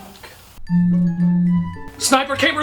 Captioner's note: phone buzzing